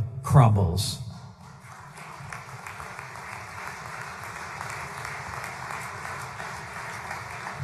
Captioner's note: applause